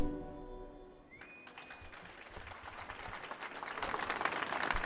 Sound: applause

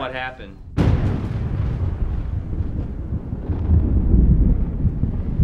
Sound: thunder erupts and rumbles

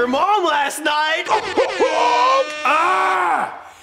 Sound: airhorn

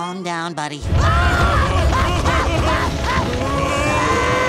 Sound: screaming

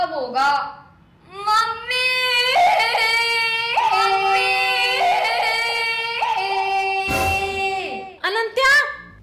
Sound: screaming

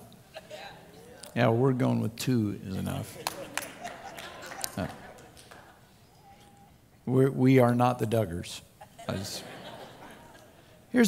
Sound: laughter

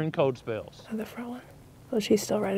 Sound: whispering

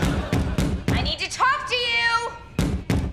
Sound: banging; banging

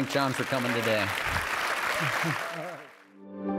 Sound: audience applauding; light music

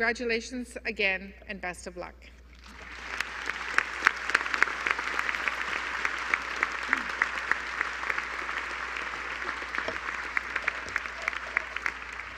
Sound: applause

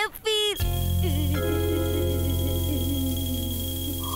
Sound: groaning

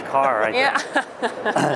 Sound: laughs

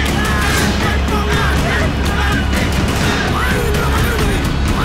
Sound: crowd Cheering

